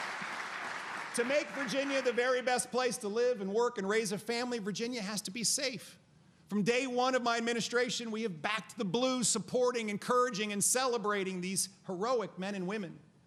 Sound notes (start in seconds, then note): 0.0 applause